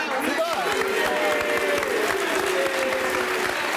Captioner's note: applause